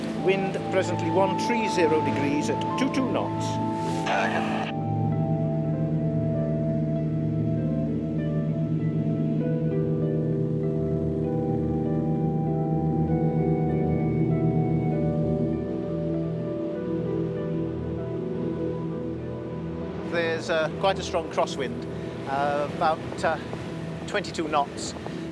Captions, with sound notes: - Wind presently 130 degrees at 22 knots. (propellor whirring) There's quite a strong crosswind, about 22 knots.